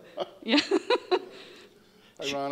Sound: laughing

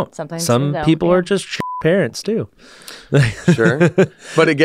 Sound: beep; laughs

